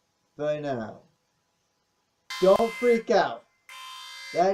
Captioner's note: alarm sounds